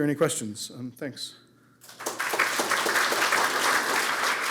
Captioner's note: applause